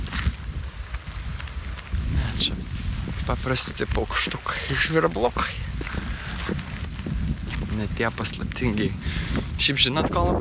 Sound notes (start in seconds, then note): 4.2 birds chirping